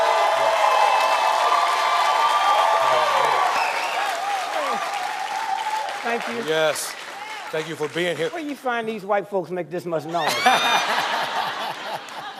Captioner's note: cheers and applause